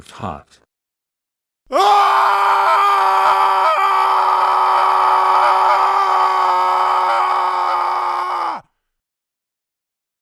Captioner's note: screams to Death